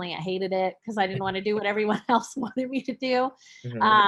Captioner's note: chuckles